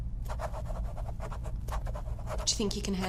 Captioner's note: loud scribbling